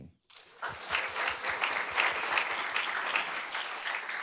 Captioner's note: audience claps